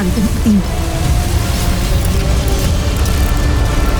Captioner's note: powerful whoosh-crackle; music swells